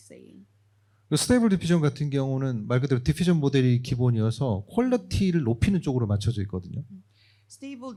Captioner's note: speaking korean